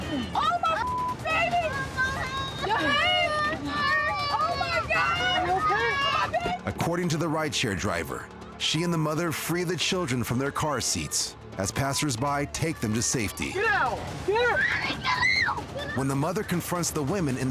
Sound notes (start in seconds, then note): 2.4 child crying; 14.4 child shrieking